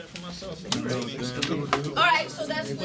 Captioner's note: students murmur